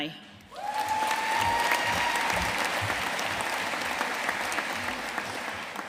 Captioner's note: audience cheering and applauding